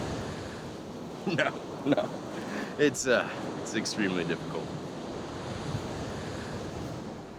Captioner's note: laughs